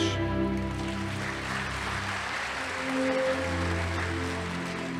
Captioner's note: audience applauding